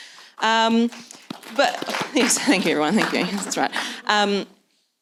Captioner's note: applause